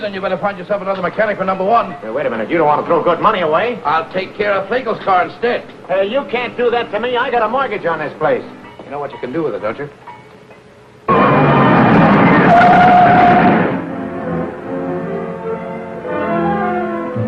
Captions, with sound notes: Then you better find yourself another mechanic for Number One. - Hey, wait a minute. You don't want to throw good money away. - I'll take care of Lagel's car instead. - Hey, you can't do that to me. I got a mortgage on this place. - You know what you can do with it, don't you? (tires squealing) (upbeat music)